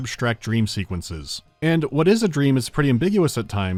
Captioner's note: none